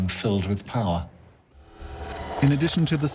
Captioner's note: eerie noises